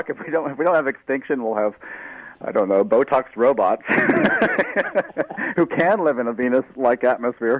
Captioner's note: laughter